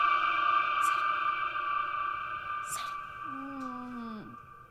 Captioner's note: whispers